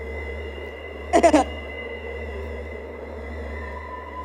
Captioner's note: laugh